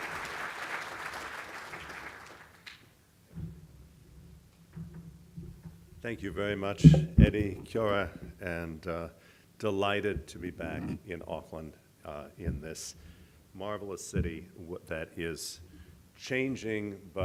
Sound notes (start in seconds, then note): 7.2 speaking foreign language